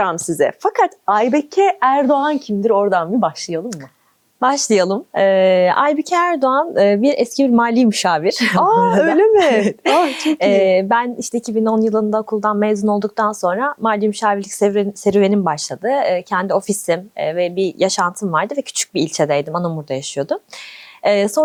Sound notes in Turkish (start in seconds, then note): 8.8 kahkaha